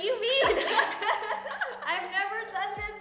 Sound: laughs

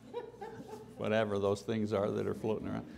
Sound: laughter

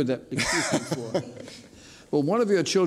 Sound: laughs

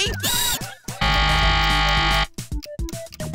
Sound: buzzer ringing

